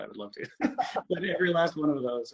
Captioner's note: laughs